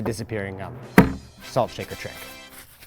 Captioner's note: light thud